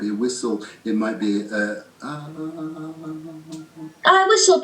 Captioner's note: 'Ahhh', wavering soft resonant voice